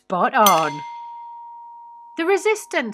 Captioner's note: bell dings